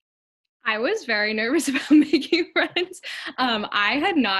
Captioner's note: laughs